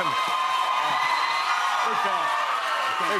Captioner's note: cheers and applause continue